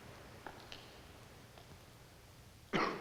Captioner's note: he coughs